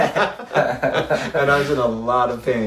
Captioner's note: laughs